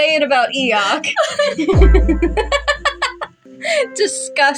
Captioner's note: laugh; giggle